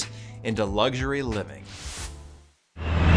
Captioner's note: graphics swishing; truck revving